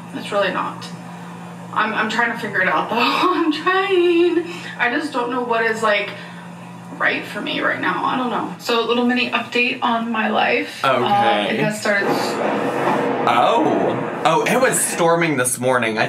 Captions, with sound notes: - It's really not, I'm trying to figure it out though. (laughs) I'm trying! I just don't know what is right for me right now. I don't know. So a little mini update on my life. - Okay. - It has started to- (thunder rumbles) - Oh, oh, it was storming this morning.